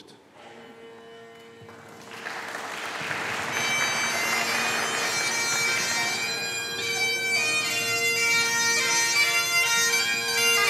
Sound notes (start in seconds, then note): 1.6 audience applauding; 2.8 stately bagpipe music